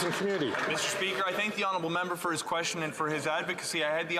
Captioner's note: some Applause